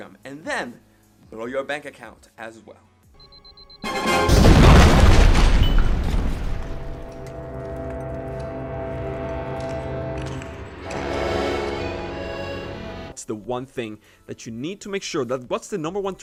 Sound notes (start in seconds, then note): 3.2 beeping; 4.2 explosion booming; 5.8 dramatic music